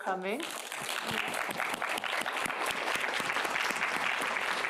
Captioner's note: applause